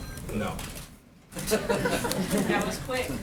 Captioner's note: laughter